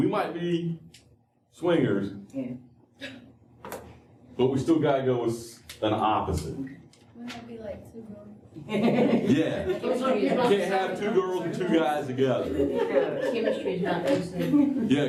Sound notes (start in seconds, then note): 8.6 laughter; 12.2 laughter